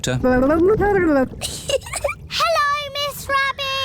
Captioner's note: gurgles; giggles